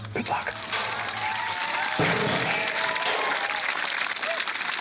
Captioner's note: applause